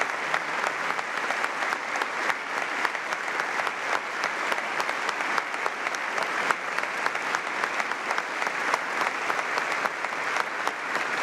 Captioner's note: applause